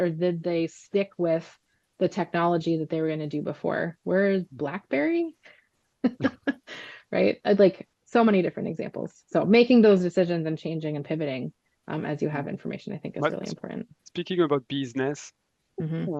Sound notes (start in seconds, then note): 6.1 laughs